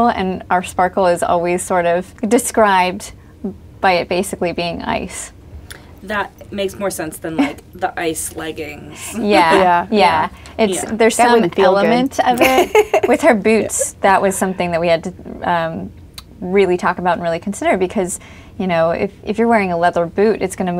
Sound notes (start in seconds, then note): 11.2 laughs